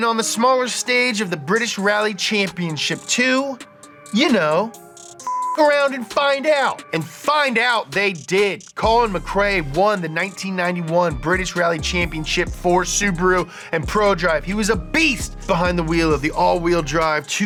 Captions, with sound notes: on the smaller stage of the British Rally Championship to you know, (beep) around and find out, and find out they did. Colin McRae won the 1991 British Rally Championship for Subaru and Prodrive. He was a beast behind the wheel of the all wheel drive